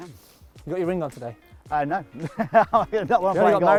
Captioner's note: laughs